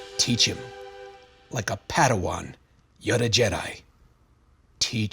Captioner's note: some kind of accent